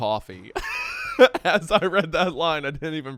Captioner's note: laughs